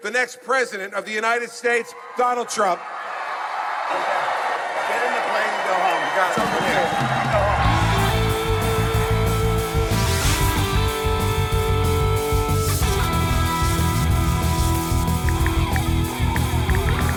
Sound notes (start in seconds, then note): 4.5 cheering; 9.6 rock music